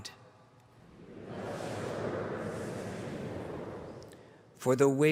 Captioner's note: audience response